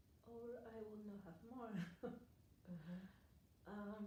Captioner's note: chuckles